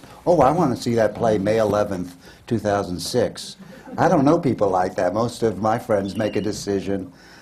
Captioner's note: laughter